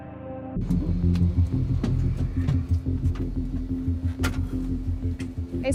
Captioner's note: door opens; door closes